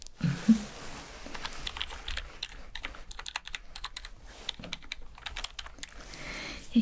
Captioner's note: typing sounds